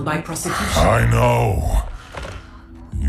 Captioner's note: sigh